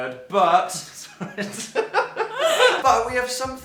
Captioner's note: both Laugh